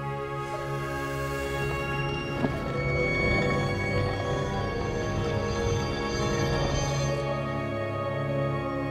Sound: magic wooshing

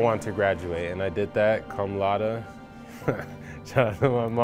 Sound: laughs

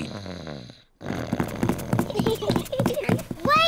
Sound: snores; both giggle

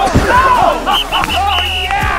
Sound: yells; whistle blows

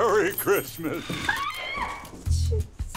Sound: screams

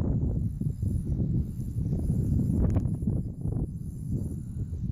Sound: line whirring

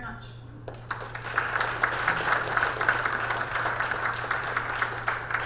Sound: audience clapping

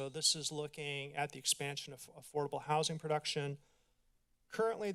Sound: none

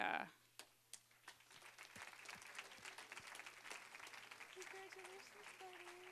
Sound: applause

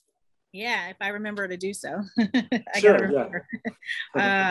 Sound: chuckles

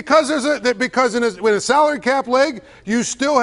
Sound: laughter

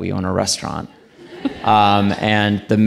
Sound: audience laughing

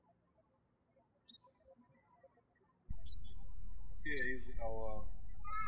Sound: birds chirping

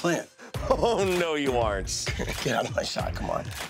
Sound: laughs

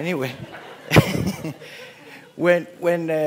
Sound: laughter

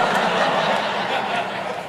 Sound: audience laughs

